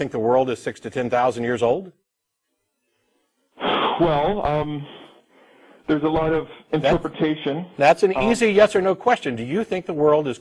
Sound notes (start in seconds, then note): 4.8 big breath